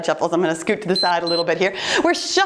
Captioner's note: timer beeps